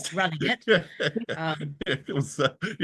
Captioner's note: all laughs